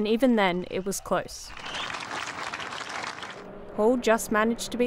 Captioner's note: crowd applause